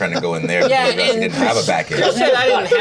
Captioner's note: Omin laughing